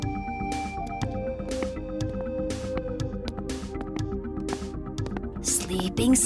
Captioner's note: guard walking